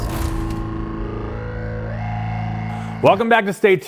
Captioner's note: distortion whines